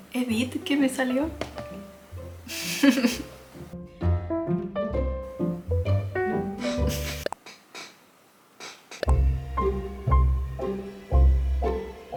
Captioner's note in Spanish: resoplido